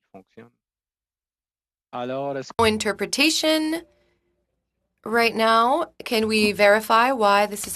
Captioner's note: speaking French